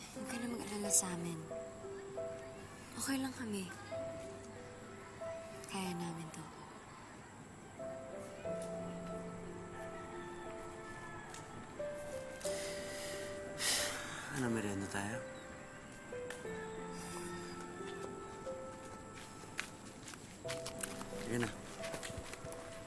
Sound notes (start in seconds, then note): 7.8 plaintive music; 12.5 sighs